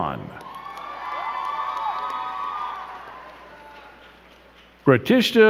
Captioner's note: crowd cheering and clapping